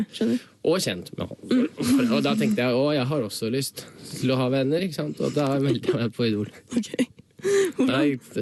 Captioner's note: laughs